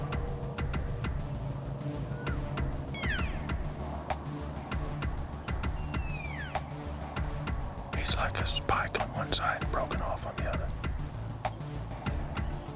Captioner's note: whispering